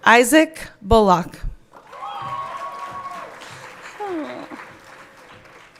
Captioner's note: everyone cheering